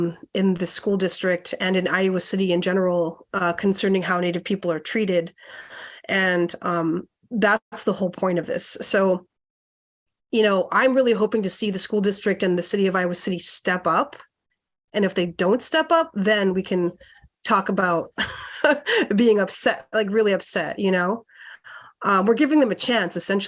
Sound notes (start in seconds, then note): 18.2 laughter